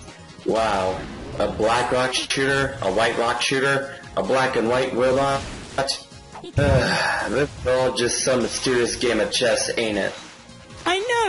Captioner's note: sighs